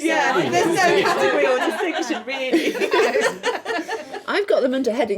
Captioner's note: laughing